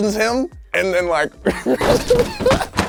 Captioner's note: laughs